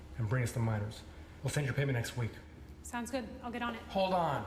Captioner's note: none